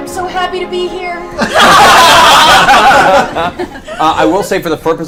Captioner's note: all laugh